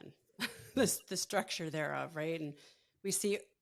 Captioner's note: chuckles